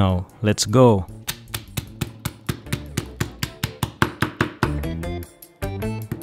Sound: pounding

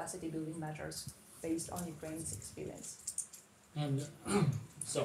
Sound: clears throat

